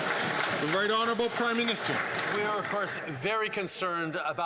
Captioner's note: some Applause